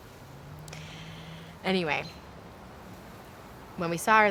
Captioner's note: none